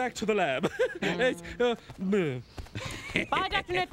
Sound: laughing nervously, jabbering

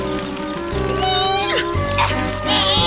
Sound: strains; grunts

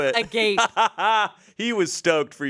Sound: laughs

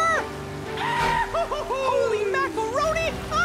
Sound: Pietro hollering

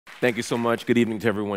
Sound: audience applause

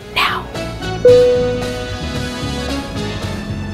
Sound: dinging

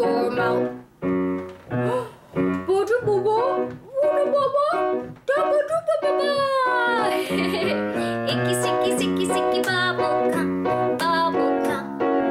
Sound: laughter

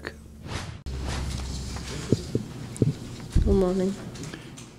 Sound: whooshing

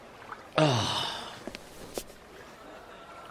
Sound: groans

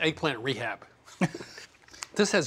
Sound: both chuckling

